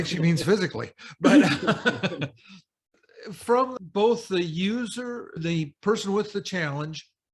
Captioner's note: laughter